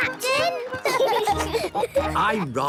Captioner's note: laughing